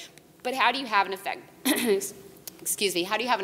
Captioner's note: coughs